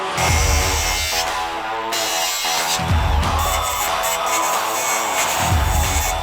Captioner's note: screeching; upbeat music